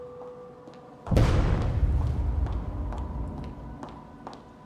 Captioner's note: explosion roars